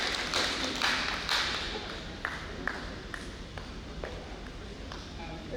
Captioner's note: audience applauding